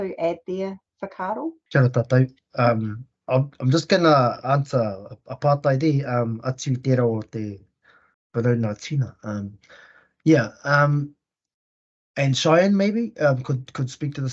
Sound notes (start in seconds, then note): 7.0 Māori language spoken